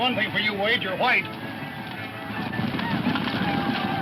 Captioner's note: whooping